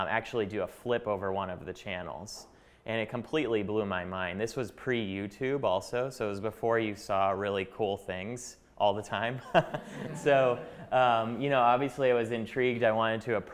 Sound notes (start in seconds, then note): 9.4 chuckling